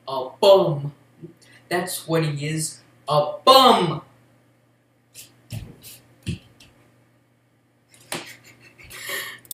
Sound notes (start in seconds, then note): 8.2 some more snickering